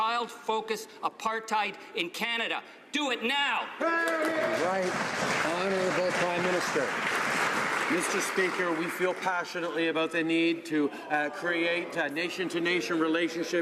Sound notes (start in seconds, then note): 6.8 some Applause